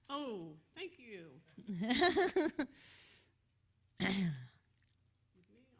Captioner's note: woman laughs